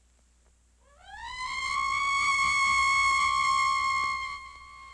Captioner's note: bat shrieking